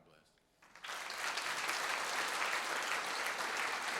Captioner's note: applause